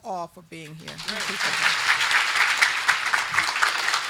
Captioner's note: group clapping